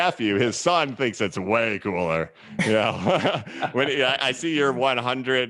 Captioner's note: laughs